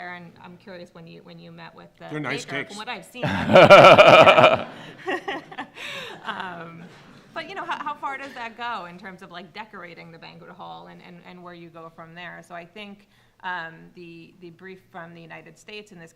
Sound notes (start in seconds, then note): 5.6 laughing